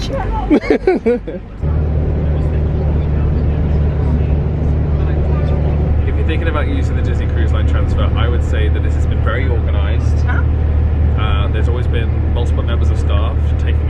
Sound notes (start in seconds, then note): 0.5 laughing